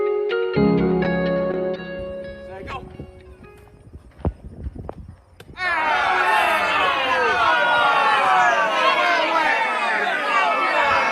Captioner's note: cheering